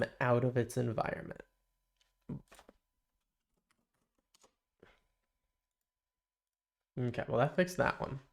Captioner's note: silence